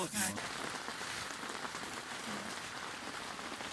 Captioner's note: sound of rain